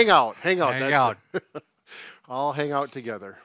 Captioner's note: laughs